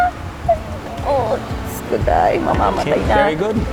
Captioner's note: speaks in local language